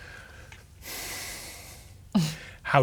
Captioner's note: exhales